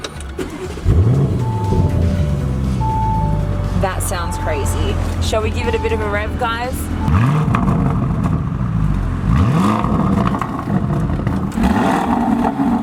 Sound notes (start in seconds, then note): 0.0 click-wrrrooommm!; 2.1 engine humming; 7.0 revs the engine